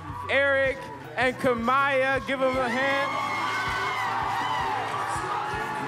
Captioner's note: audience cheers and applauds